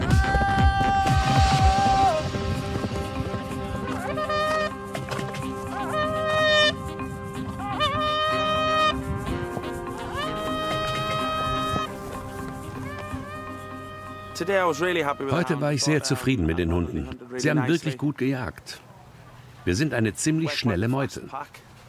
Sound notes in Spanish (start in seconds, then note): 0.0 señal de grito; 3.3 señales de bocina